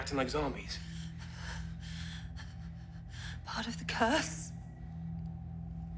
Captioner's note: whimpering